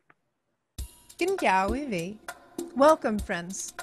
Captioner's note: speaks in foreign language